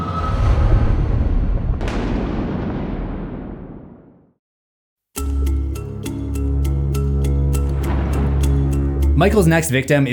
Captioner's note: thunder